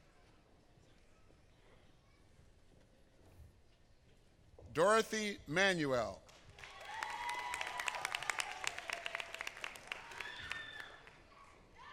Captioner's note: applause